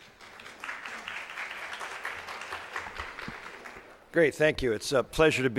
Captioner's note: crowd applauding